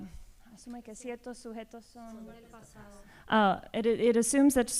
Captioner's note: speaking spanish